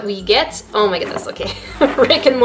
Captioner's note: laughs